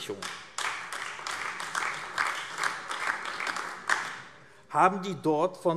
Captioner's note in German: Beifall AfD